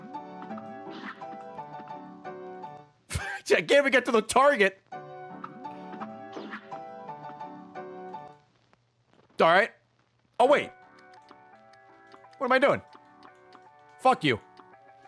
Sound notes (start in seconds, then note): none